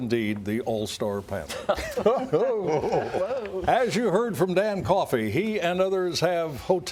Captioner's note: laughter